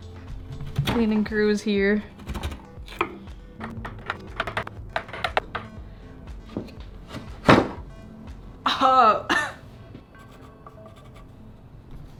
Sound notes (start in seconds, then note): 9.2 cough